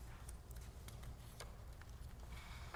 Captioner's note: paper Rustling